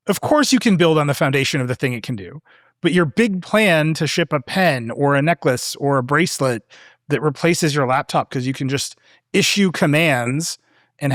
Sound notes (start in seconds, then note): none